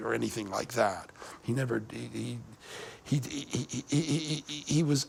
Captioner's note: stammering